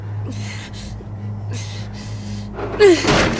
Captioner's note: sighs